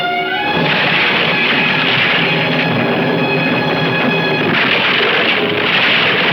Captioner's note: tense music; ship clattering